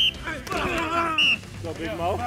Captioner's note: whistle blows